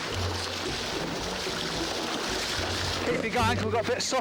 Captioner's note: water sloshing